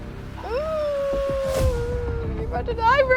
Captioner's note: groans